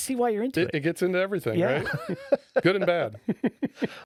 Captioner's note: laughing